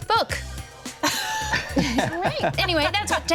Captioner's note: everyone chuckles